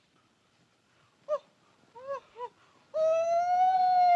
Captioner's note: Mowgli hoots; Mowgli howls